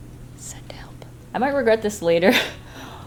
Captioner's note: chuckles